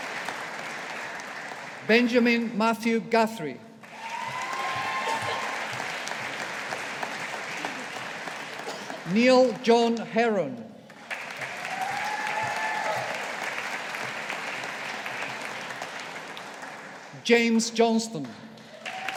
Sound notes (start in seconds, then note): 3.8 audience applauding; 18.5 audience applauding